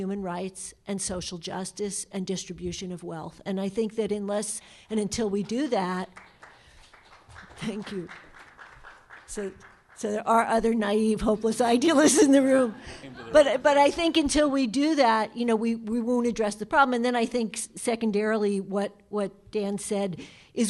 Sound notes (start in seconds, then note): 5.9 applause in background